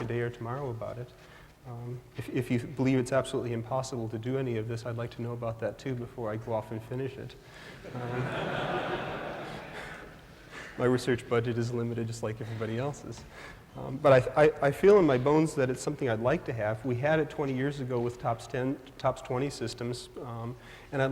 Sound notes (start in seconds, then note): 7.8 laughter